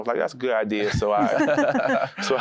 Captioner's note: laughter